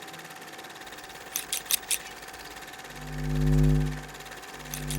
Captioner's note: scissors snipping